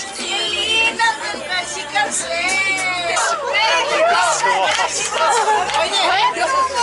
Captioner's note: applause